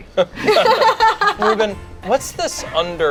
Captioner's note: group laughs